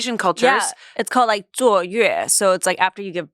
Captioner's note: speaks foreign language